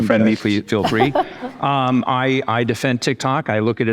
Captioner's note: panelists chuckle